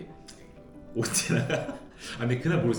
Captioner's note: only laughter